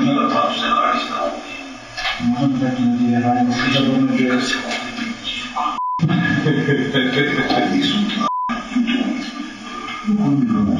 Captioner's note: whispering; laughs